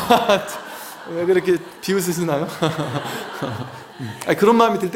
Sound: laughs

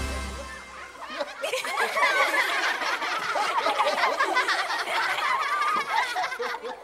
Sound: laughing

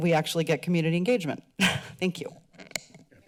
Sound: chuckles

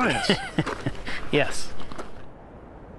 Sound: chuckles

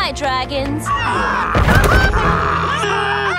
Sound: crying

